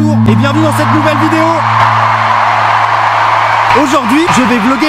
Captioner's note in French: cris de foule